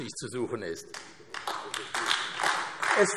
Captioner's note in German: Beifall AfD